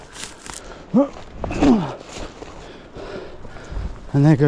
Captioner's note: grunting